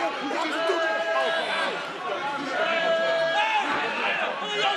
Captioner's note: audience and wrestlers' shouting droning